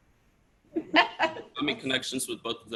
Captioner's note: laughing